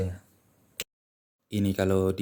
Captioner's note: finger snap sound